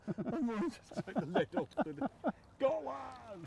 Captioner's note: laughing